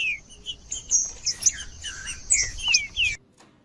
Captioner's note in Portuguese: trinca ferro cantando